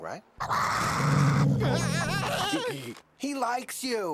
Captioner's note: ferocious growling